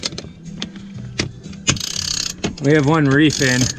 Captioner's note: winch whirring